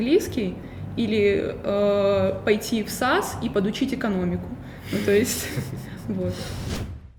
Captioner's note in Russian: смеются